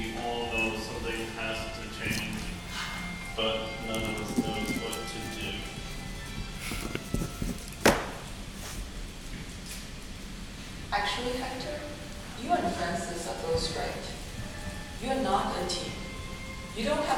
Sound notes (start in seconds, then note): none